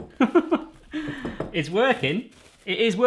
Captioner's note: laughing